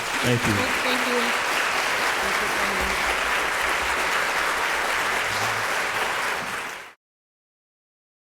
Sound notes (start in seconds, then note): 4.6 audience applauding